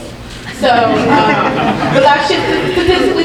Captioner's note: audience laughing